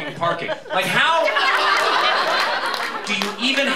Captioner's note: laughter